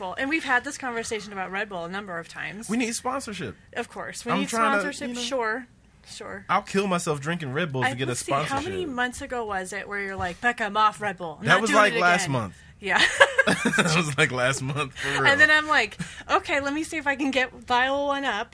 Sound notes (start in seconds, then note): 13.0 laughs